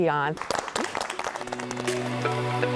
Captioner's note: applause